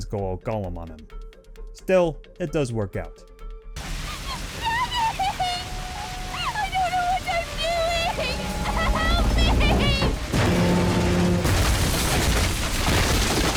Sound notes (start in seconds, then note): 4.1 sobbing